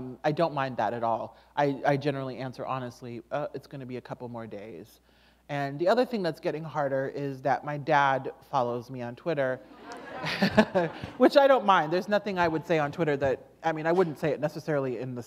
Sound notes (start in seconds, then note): 9.8 chuckle